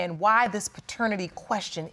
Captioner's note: none